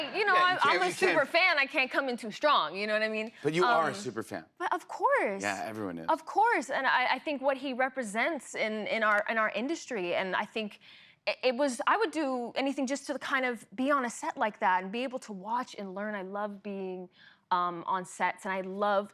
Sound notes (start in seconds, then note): none